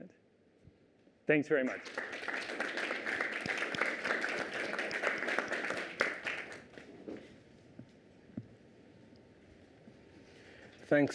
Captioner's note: applause